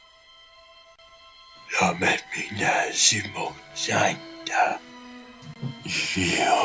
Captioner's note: speaking korean